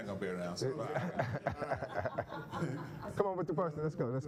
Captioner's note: laughing